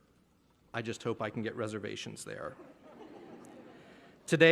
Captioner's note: laughter